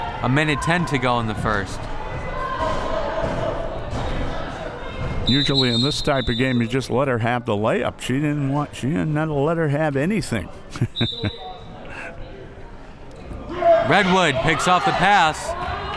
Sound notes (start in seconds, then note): 5.2 whistle; 10.6 laughs